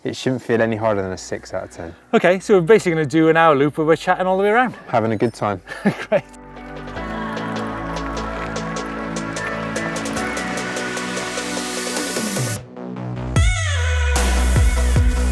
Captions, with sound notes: it shouldn't feel any higher than a six out of 10. - Okay, so we're basically gonna do an hour loop and we're chatting all the way around! - Having a good time. - (chuckles) Great! (upbeat music)